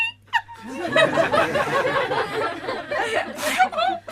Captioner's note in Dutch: Gelach